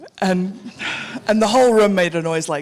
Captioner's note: audience laughing